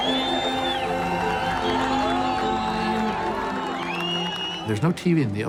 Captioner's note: cheering and whistling